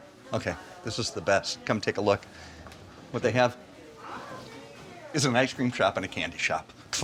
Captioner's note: none